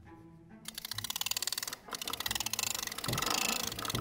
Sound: playful music; lever cranking

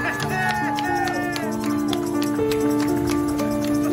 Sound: crowd Clapping

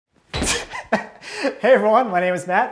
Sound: chuckles

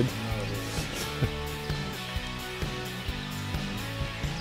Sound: chuckle

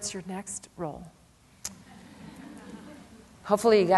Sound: laughter

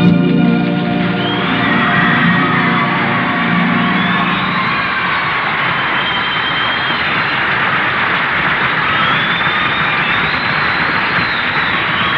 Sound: audience applause and uproarious cheering

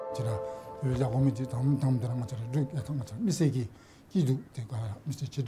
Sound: speaking in foreign language

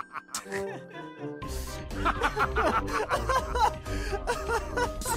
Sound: Scout Crying

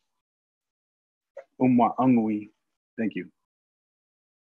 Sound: speaking Native language

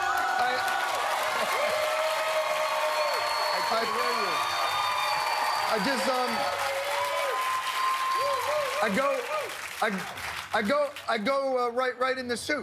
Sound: cheers and applause

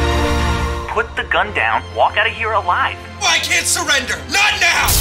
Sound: man over phone

